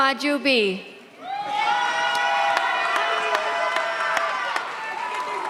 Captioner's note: audience cheers